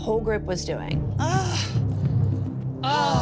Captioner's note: sighs